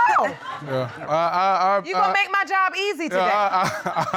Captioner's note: stammering